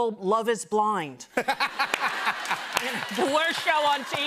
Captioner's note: laughter